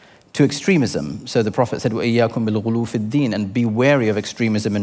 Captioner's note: foreign language